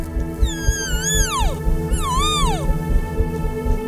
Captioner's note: cow calling